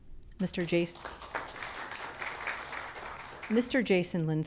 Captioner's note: audience clapping